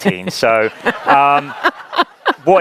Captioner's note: laughing